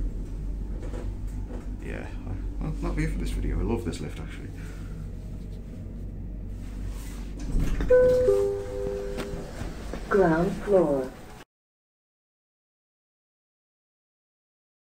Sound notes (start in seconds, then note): 7.9 chime